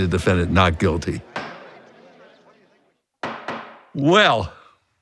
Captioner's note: gavel bangs